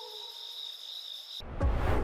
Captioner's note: suspenseful music; transition whooshing